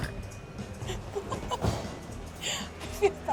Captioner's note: chuckling